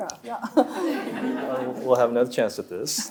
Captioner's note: audience laughing